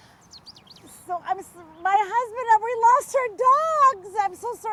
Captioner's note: stammers